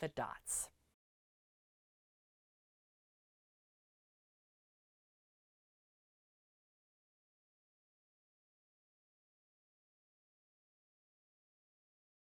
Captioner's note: no Sound Present